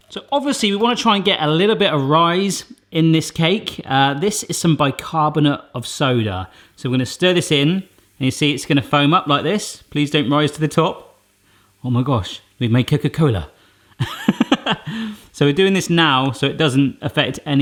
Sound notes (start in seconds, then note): 14.0 laughing